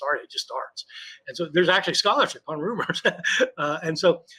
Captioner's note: laughs